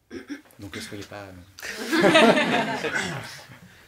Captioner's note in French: rires